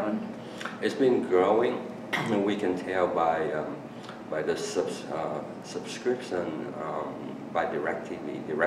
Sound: coughs

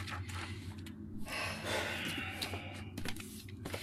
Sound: sighs

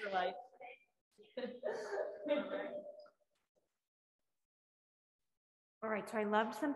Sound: laughing

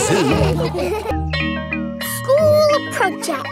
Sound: school bell rings

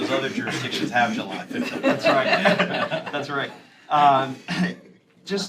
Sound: laughter

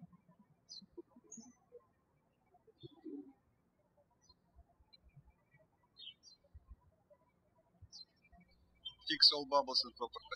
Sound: birds chirping

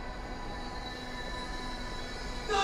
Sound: shouting

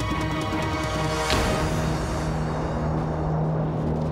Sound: explosion

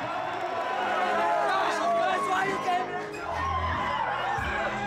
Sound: crowd cheering

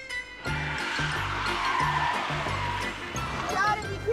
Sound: tires squealing

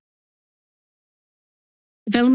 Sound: pause

